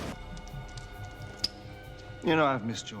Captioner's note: metal clinking